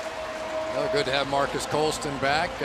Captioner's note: pa announcement